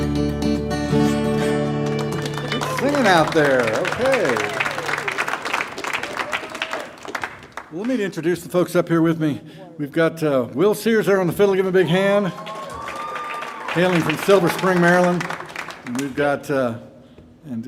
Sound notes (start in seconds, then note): 4.6 audience applauding; 4.6 audience members hooting; 12.2 audience cheer and applaud